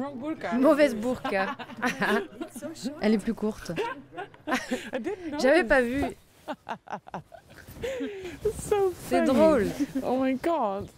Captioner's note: laughs